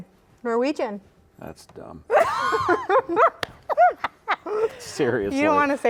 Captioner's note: laughing